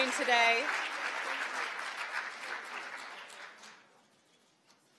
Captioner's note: applause